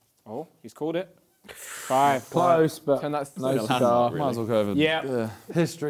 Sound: crowd mumbling

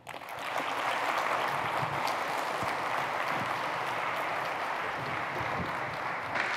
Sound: applause

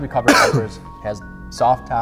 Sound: loud cough

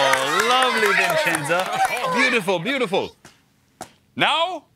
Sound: applause

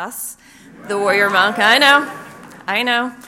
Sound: cheers

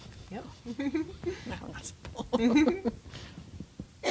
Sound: murmurs

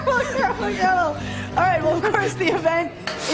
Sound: laughter

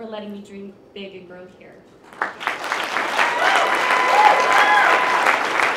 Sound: applause

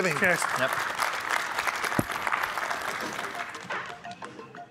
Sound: applause

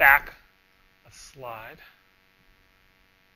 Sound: pause

